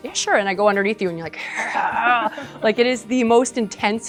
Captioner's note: groans